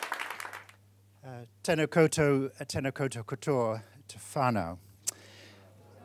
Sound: speaking foreign language

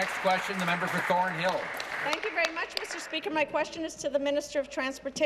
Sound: applause

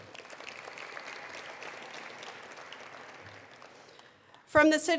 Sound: attendees applauding

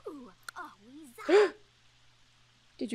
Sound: gasps

